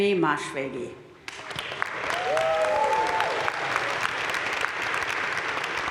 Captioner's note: crowd cheering and applauding